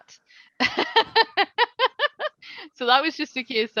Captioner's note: laughing